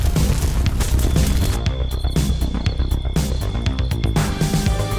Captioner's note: crickets chirping